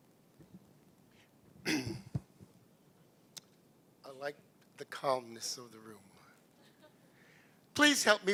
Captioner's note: clears throat